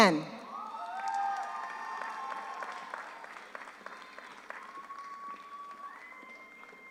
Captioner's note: audience cheers; audience applauds